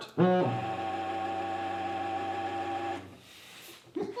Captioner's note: printer droning; laughs